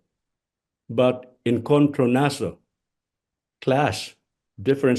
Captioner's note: speaks in foreign language